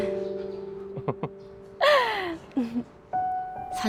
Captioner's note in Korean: 웃음